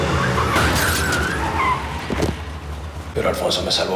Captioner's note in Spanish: Golpetazo